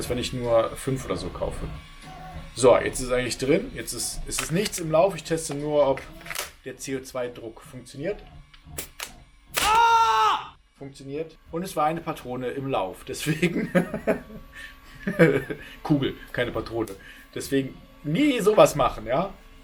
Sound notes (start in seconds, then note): 8.4 click; 13.4 chuckles